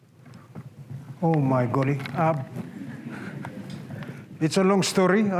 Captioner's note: laughter